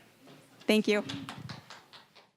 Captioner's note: scattered applause